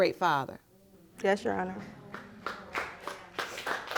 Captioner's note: audience applauding